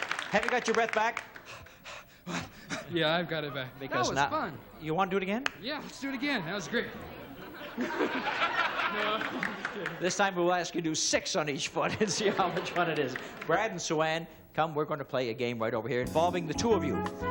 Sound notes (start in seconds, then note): 1.4 panting; 7.2 laughter